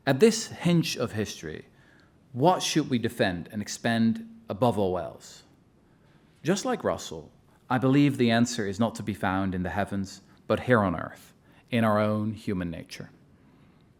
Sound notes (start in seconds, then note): none